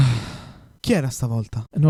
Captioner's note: sighs